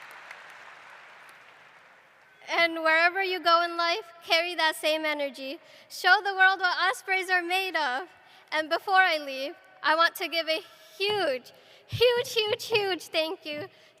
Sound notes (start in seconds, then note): 0.0 applause; 0.0 cheering